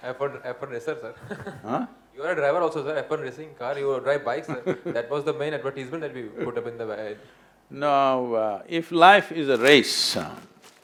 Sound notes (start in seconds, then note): 4.6 Sadhguru laughs